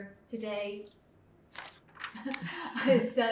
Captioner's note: laughing